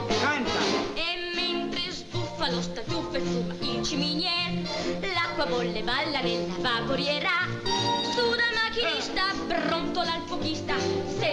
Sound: non-english

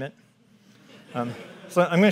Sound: audience laughs

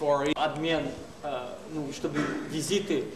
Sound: non-english speech

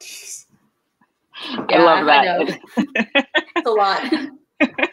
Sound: laughs

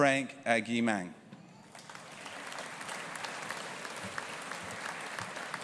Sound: audience applauding

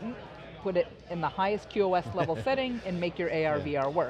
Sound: laughs

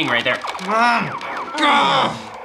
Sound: frustrated grunt

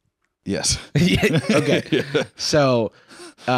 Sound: laughs

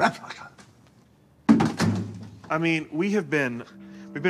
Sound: thuds

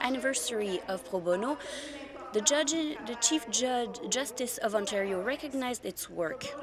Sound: speaking french

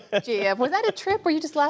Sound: laughter

